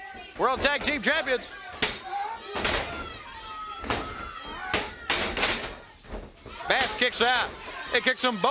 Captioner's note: crowd chatter